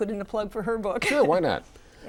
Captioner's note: laughs